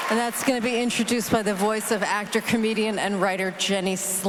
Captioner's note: applause